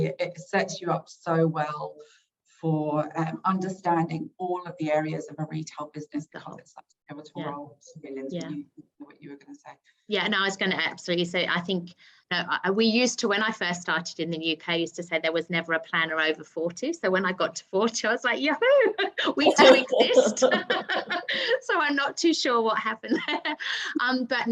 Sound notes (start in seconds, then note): 18.8 chuckling; 19.0 everyone chuckling